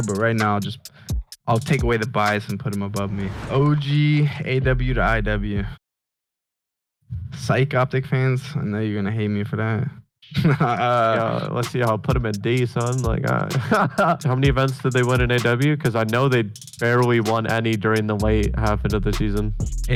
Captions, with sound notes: but right now I'll just, I'll take away the bias and put them above me. OG AW to IW Syke Optic fans, I know you're going to hate me for that. (both laugh) Let's see, I'll put them at D son, like ah. How many events did they win in AW? Cause I know they barely won any during the late half of the season.